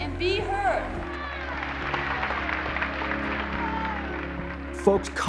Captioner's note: applauding and cheering